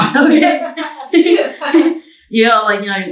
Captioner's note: both laughing